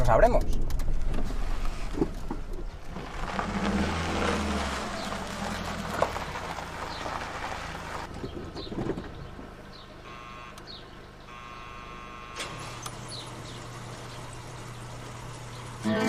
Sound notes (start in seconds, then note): 1.2 sound of wheels turning; 10.6 doorbell